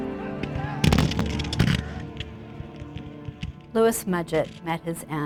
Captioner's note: guns firing